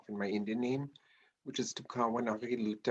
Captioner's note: speaking in Native language